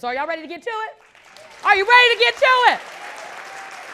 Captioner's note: audience clapping